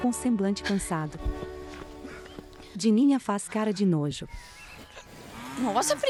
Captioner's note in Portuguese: Ofegante